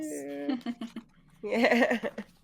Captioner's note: laughs